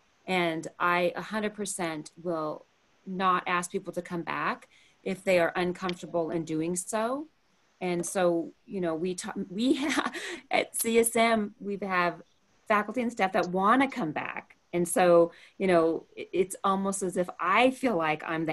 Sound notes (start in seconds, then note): 9.8 laughter